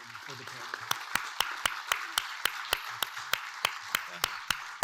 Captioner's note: audience clapping